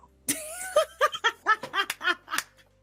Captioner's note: laughs